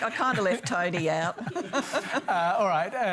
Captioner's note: laughter